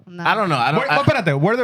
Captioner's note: speaking Foreign Language